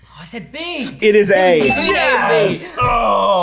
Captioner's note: bell dings